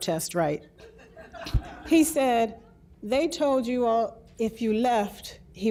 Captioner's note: audience laughs